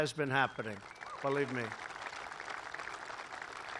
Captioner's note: applause